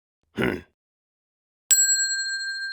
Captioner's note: sheep bleating; Shepherd grunts; bell dings